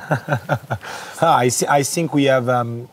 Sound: men laughing

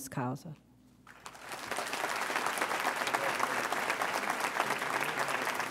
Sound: audience applauds

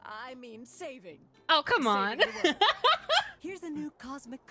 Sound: laughter

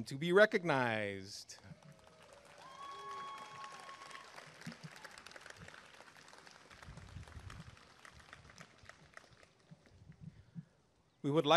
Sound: applause and cheering

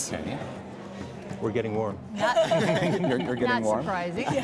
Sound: laughter

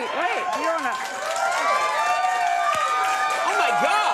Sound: audience cheers

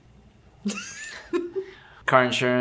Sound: laughs

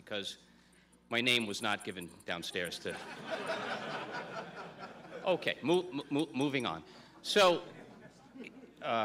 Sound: laughter

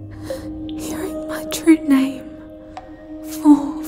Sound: sobbing in joy

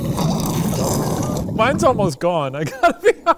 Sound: sips heavily

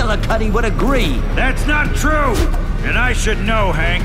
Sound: countdown beep continues

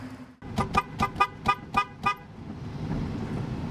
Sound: horn honking

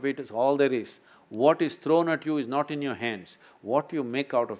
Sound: none

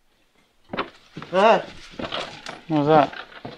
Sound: knock

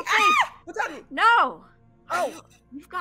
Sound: Fairuza screams

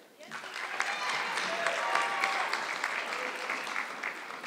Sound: audience clapping

